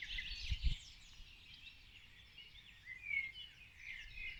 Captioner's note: birdsong